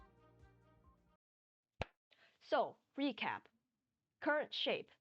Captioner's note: clap